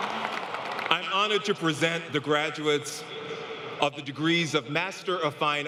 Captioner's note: applause